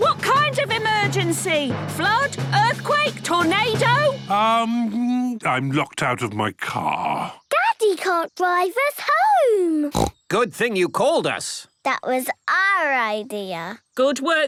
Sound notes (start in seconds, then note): 9.9 snorts